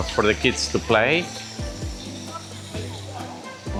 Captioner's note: children talking